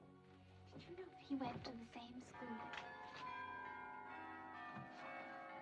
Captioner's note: bells Pealing